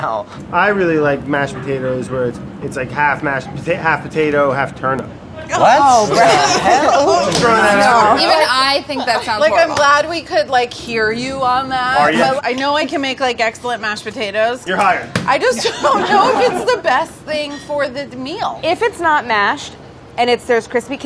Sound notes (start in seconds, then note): 7.2 groaning; 15.5 laughter